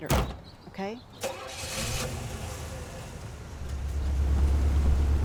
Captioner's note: car engine roaring